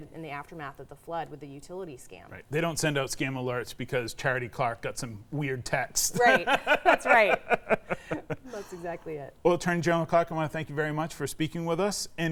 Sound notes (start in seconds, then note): 6.2 laughing